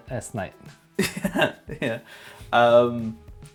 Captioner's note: laughs